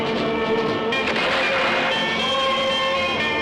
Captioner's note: gunshot